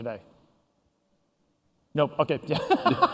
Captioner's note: laughter